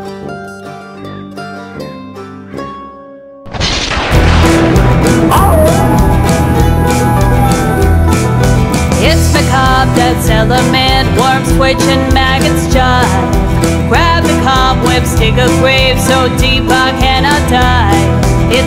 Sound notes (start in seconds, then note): 0.0 gentle banjo tune playing; 3.4 thunderous explosion; 5.3 coyote howling; 5.7 country band music